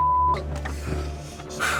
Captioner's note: beep